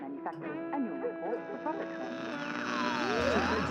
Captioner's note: static buzzing